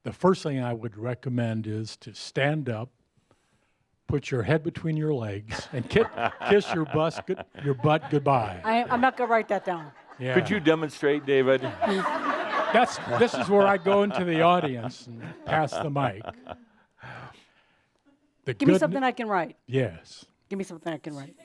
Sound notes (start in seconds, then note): 7.7 some laughter; 12.1 more laughter